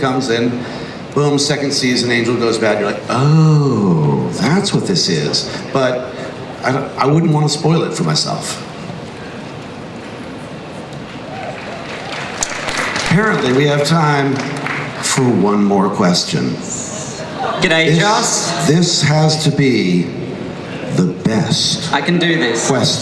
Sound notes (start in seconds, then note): 9.9 crowd cheers; 17.5 voiceover